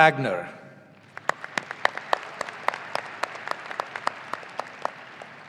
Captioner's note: audience applauding